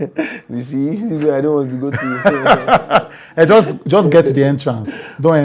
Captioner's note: laughter